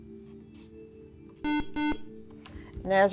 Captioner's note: buzzer